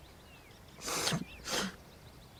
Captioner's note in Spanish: Sollozos